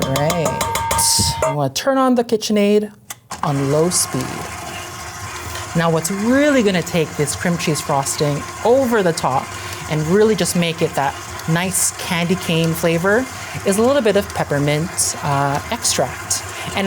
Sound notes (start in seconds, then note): 5.0 mixer whirs